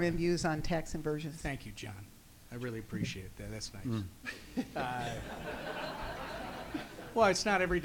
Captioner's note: audience laughs